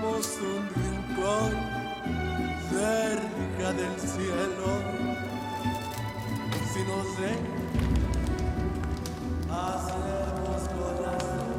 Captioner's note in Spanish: Sonido al quemar la foto